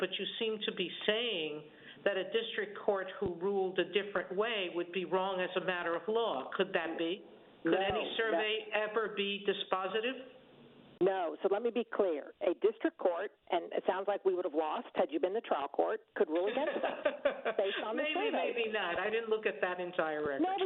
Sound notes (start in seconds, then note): 16.4 laughter